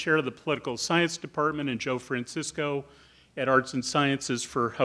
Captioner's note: none